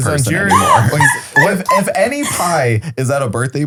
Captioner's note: laughs